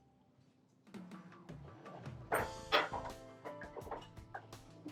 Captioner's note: sound of drawer opening; sound of drawer closing